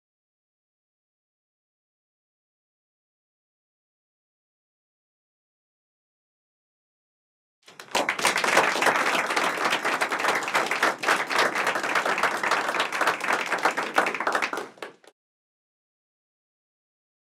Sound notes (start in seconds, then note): 7.6 applause